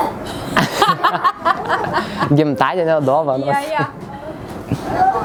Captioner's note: laughing